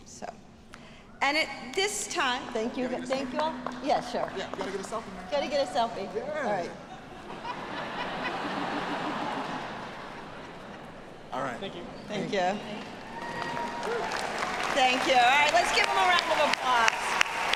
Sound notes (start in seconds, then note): 6.5 audience laughing; 12.7 audience cheering